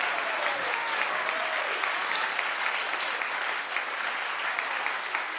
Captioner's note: audience applauding